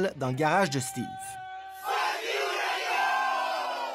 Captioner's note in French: en choeur